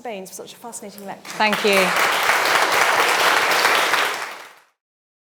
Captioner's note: audience applauding